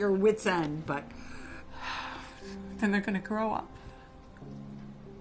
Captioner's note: sighing